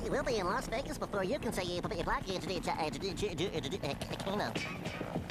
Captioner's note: stuttering